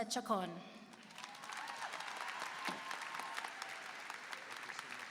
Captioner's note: applause and cheering